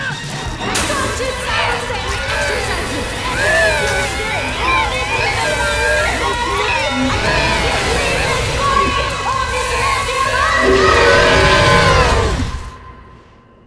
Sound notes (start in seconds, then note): 2.2 distorted screaming; 6.7 distorted screaming; 10.9 roar